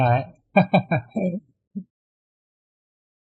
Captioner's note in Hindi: हंसी